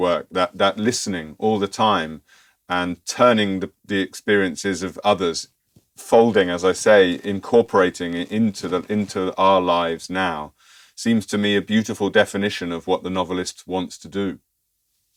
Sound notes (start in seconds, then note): 6.8 folding